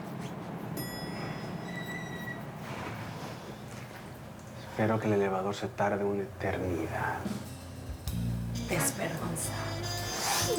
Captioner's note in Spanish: Timbre del elevador